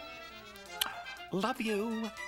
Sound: kisses

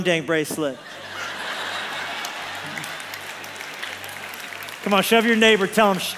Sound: congregation laughs

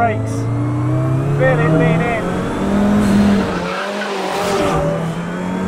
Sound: car roars

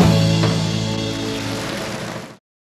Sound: audience clapping

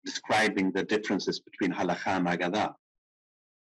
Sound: speaking in foreign language

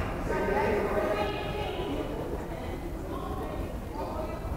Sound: crowd chattering

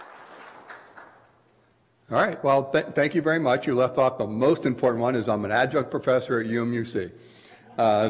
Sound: clapping

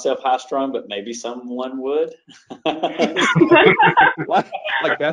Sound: laughs

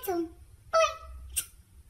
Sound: smooch

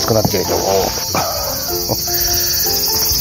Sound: laughs

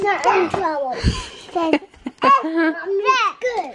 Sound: laughing

